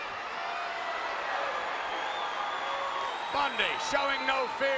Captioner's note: crowd cheers